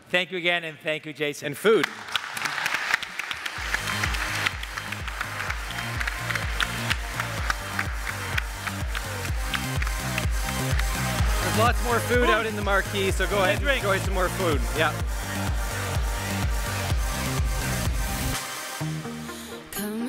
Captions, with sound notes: Thank you, again. And thank you, Jason. - And food! [audience applaud] [upbeat dance music] - There's lots more food out in the marque, so go ahead and enjoy some more food, yeah. [upbeat dance music continues]